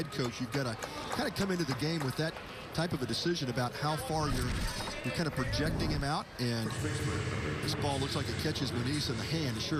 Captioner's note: applause